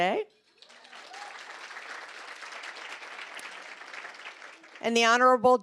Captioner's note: applause